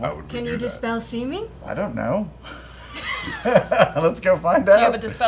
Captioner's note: laughing